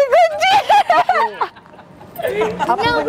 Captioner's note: laughing